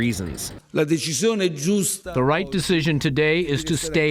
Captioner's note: through translator